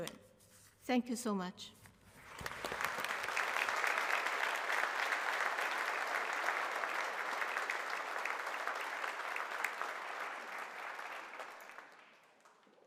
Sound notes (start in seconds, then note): 2.2 applause